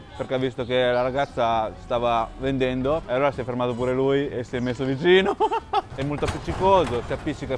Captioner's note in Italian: risate